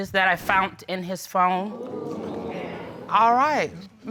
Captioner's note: crowd crinjes